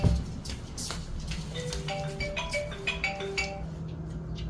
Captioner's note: phone ringing